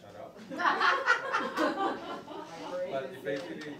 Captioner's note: crowd laughing